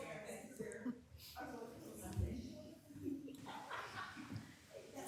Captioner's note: people chatting